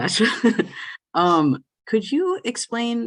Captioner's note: laughs